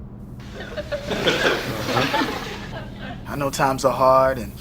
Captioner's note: audience laughs